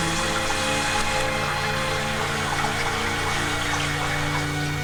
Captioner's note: dramatic music; water gushing; dramatic music